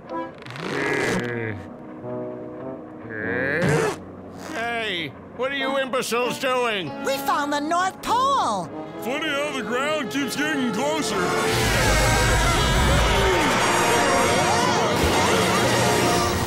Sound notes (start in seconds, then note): 11.3 all screaming; 11.5 continuing screaming